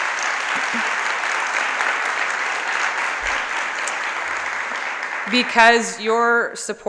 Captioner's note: applause